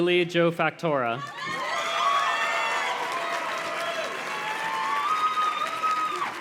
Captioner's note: audience cheers and claps